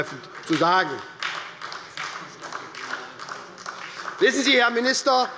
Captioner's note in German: Beifall bei Abgeordneten der SPD